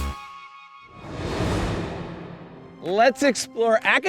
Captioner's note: upbeat music continues; graphics whooshing